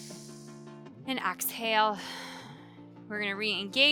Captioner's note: exhaling